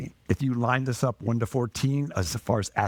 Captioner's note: none